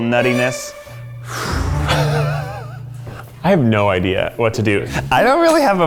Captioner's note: sighs; laughs